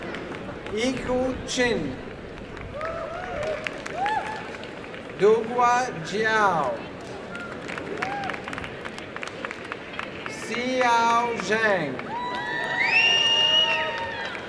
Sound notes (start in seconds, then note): 2.4 applause; 12.0 applause and cheering